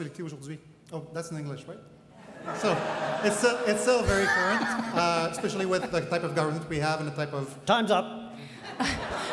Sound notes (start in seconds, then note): 2.2 crowd laughing